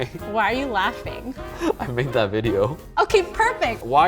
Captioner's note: snickers; laughs